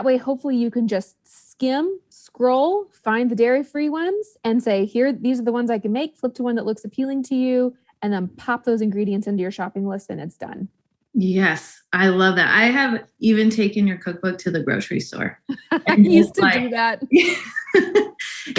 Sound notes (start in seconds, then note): 15.5 laughs; 17.1 both laughing